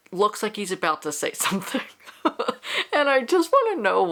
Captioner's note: laughs